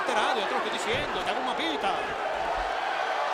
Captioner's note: applause